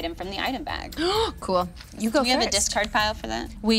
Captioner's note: gasping